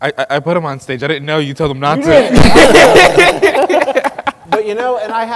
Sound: laughing

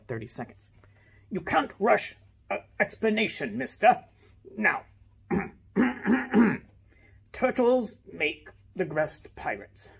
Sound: clears throat

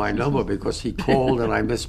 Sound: laughs

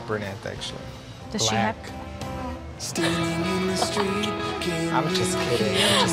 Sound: gasp

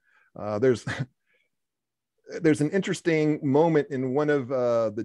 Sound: chuckles

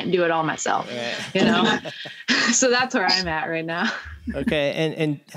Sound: laughter

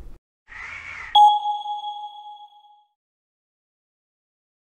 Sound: item pings

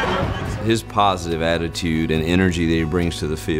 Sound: voiceover

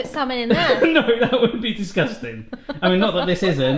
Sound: laughs

